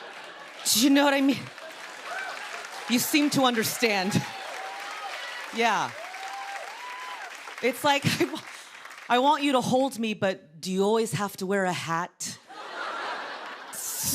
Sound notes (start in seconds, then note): 0.0 cheers and applause